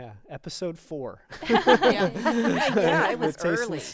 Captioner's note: group laughing